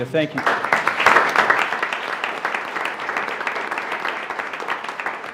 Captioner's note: attendees applauding